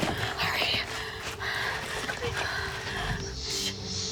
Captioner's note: all panting; snake hissing